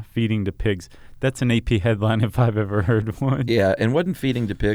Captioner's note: laughs